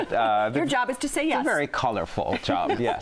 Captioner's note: laughing